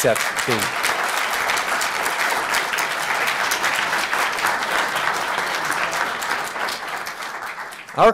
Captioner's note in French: Applaudissements